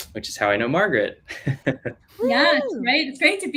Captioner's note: laughing